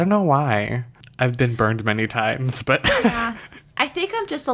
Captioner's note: laughs